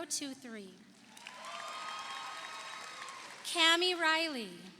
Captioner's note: audience applauds; audience cheers